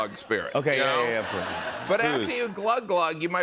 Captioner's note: laughter